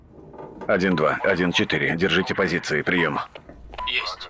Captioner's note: radio